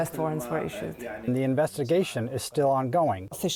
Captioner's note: through translator